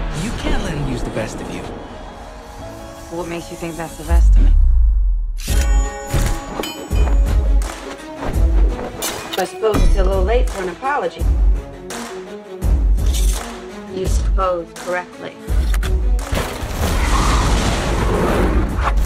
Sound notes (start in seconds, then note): 17.0 flames roar, creature snarls